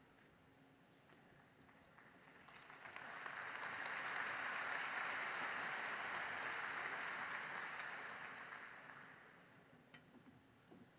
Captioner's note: applause